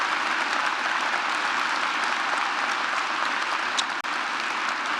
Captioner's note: applause